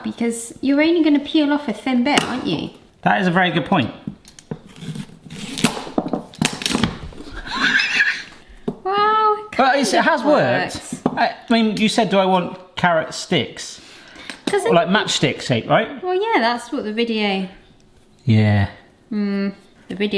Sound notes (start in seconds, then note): 5.9 carrot snaps; 7.3 laughs